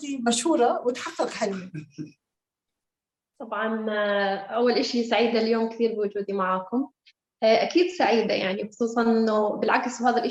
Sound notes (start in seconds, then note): 3.5 speaking Arabic